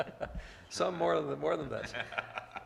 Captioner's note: laughs